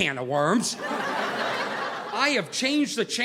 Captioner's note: audience laughing